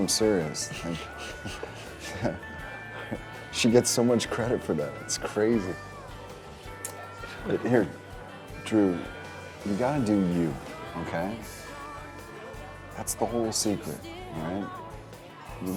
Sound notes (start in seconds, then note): 0.5 laughs; 0.6 Drew chuckling